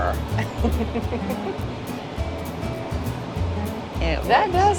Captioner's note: laughs